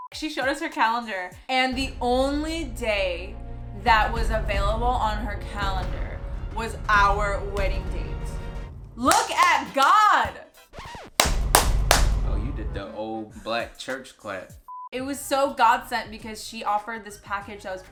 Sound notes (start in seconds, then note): 10.7 record scratches; 11.1 claps loudly